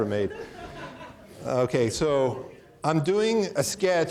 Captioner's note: audience laughing